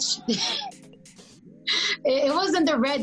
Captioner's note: laughs